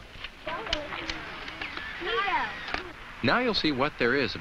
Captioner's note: camera flashes